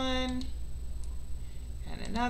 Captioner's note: mouse clicks